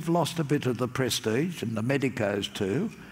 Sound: none

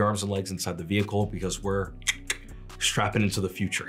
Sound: clicks tongue

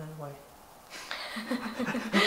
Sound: laughs

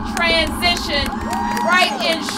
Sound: applause

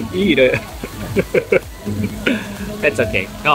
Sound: chuckles

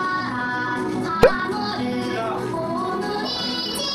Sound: blowing

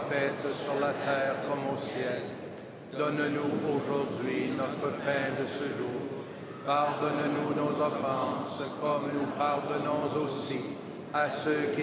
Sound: speaking French

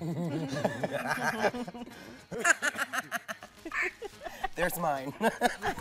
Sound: laughs

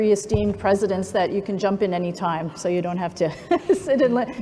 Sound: laughs

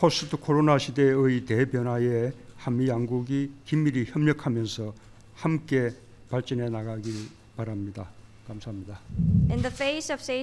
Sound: foreign language

